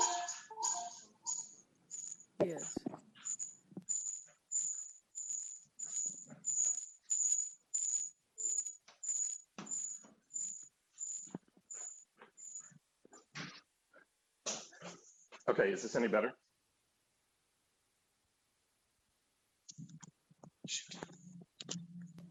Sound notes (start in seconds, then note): 7.1 feedback noise